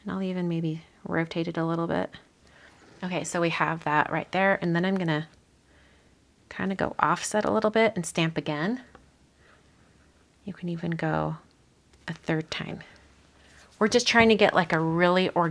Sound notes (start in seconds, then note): none